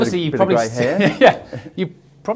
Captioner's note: both laugh